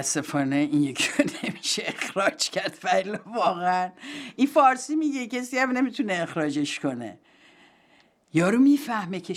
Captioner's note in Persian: خنده